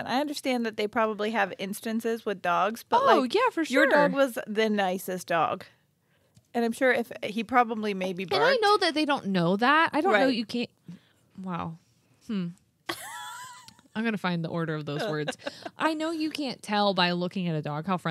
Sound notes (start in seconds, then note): 12.8 laughing